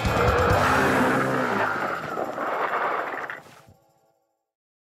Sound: crash

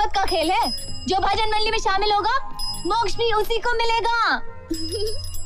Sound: cycle bell rings; cycle bell rings; laughs

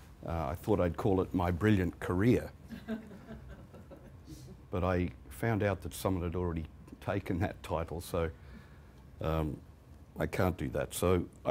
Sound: laughter

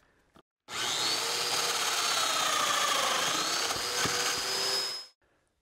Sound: domino cutter motor running

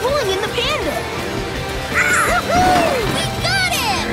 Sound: bleating

